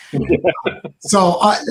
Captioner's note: laughs